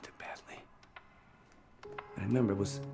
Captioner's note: rhythmic knocking sound